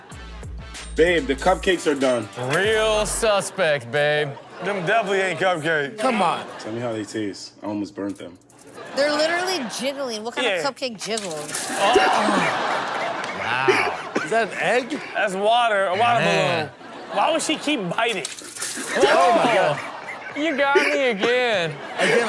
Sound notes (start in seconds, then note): 11.8 man laughs